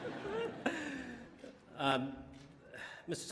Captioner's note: laughter